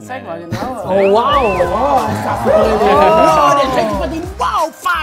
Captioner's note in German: Begeistertes Durcheinanderreden; Dynamische Musik